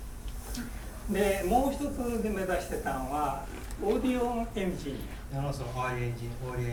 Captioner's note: speaking in foreign language